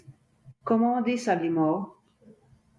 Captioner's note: french